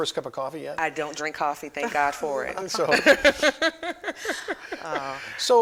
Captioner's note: laughs